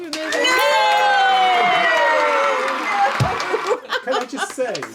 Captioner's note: cheering sound effect